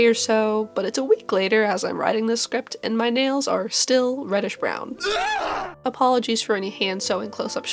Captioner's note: horrified shriek